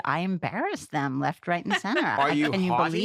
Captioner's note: laughter